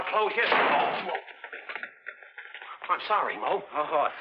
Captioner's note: broom thudding